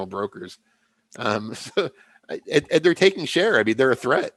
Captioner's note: laughs